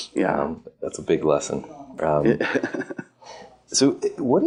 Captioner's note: laughs